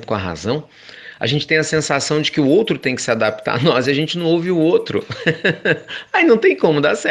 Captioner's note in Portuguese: risos